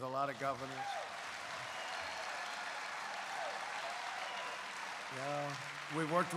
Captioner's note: applause